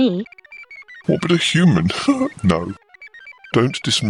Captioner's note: laughs